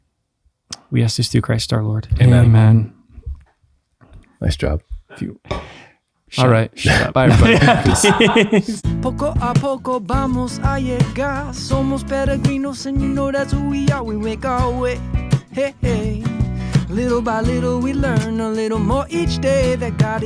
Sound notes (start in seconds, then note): 7.1 all laugh; 8.4 foreign language